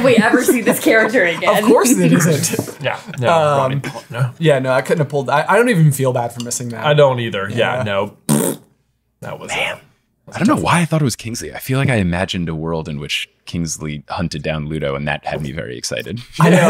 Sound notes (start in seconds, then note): 0.0 chuckling; 2.2 clearing his throat; 8.2 blowing a raspberry; 16.2 laughing